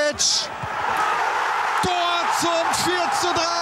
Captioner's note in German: schreit